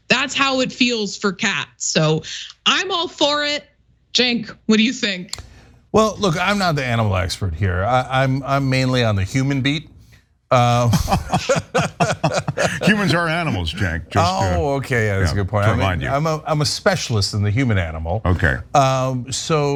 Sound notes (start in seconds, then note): 10.7 laugh